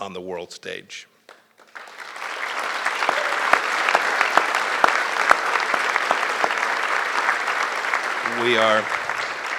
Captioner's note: applause